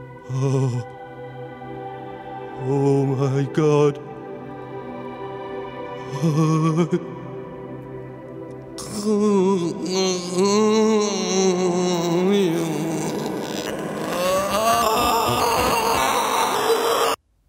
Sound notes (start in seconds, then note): 6.1 moaning; 14.0 distorted screaming